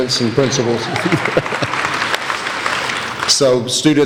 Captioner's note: laughing; applauding